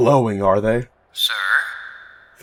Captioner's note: Felger radio voice